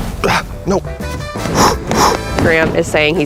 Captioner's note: blowing